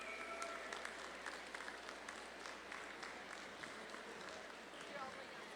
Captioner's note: audience claps and cheers